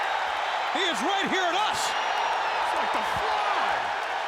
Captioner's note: applause